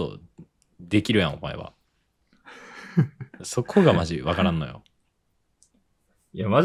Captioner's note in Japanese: 笑い